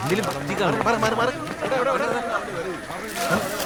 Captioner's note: indistinct chatter